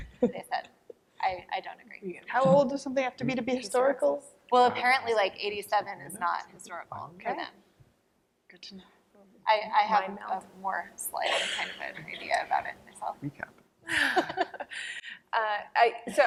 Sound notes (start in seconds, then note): 0.0 laughter; 11.2 coughing; 13.8 laughter